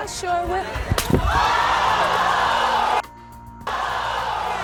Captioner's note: slapping; crowd exclaims